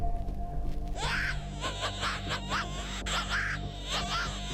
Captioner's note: rabbit distress call